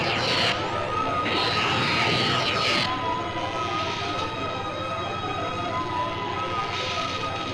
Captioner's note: suspenseful music; electric zapping